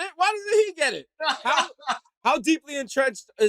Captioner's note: laughing